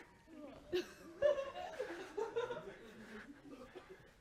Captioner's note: laughter